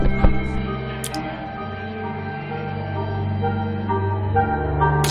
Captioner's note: blood splattering